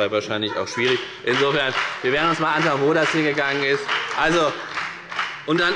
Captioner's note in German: Beifall bei der FDP und bei Abgeordneten der SPD